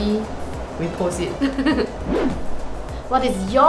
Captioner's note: laughs